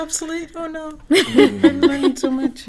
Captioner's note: laugh